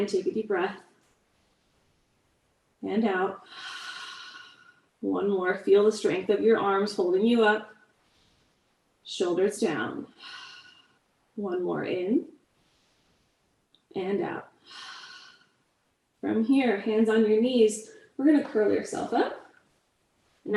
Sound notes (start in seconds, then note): 14.6 exhales